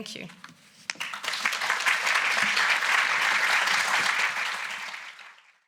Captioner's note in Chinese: 鼓掌